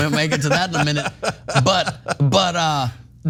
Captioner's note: laugh